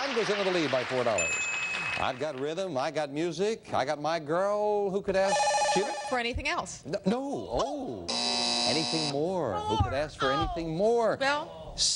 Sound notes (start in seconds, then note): 5.3 beeping; 6.2 buzzing